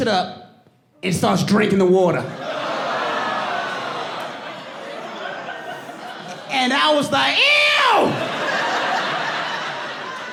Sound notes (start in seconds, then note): 0.1 audience exclaiming; 5.6 audience laughing